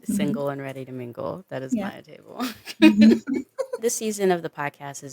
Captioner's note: chuckles